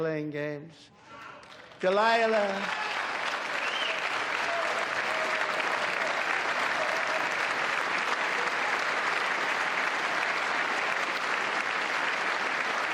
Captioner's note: applause